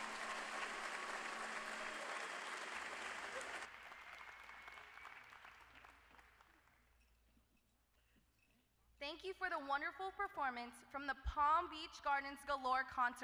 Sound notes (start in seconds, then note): 0.0 applause